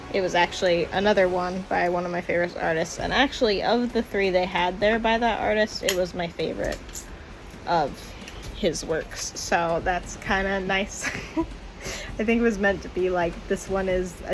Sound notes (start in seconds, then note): 11.0 laughs